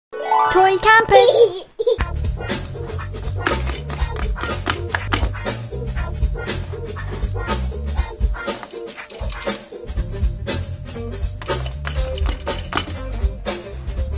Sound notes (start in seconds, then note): 0.0 intro Music; 2.4 assembly sound, background music